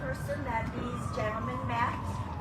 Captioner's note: emergency vehicle siren in distance